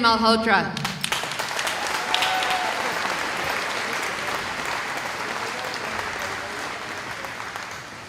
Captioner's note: cheering